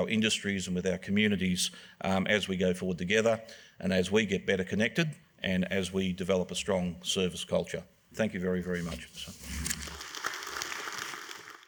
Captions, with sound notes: industries and with our communities as we go forward together. And as we get better connected and as we develop a strong service culture. Thank you very, very much. (APPLAUSE)